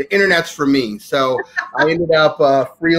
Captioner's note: laughing